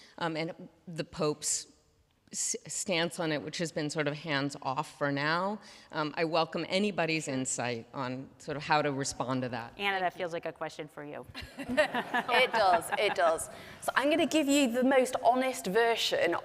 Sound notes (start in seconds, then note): 11.4 laughing